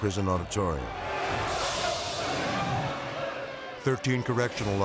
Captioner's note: prisoners shouting